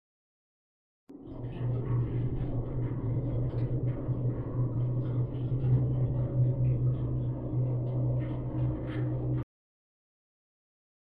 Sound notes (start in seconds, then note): 1.1 ghost ambience